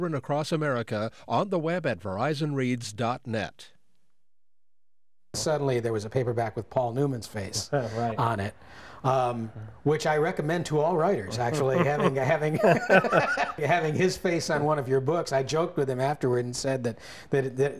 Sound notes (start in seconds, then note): 11.3 laughs